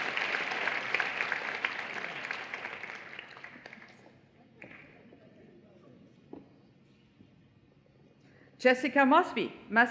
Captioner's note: applause